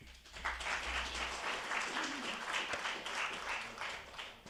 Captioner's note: attendees applauding